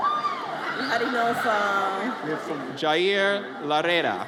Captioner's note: audience cheers